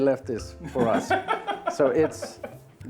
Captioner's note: laughing